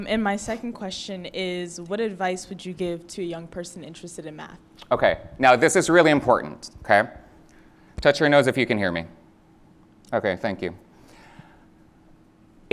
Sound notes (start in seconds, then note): none